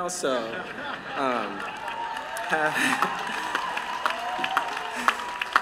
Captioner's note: laughter